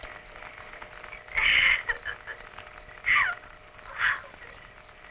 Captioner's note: sobbing